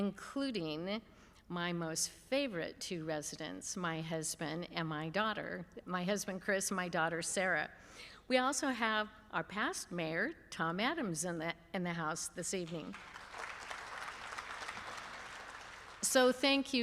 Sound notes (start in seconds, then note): 12.7 applause